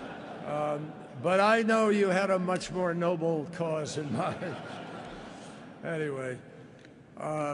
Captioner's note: laughter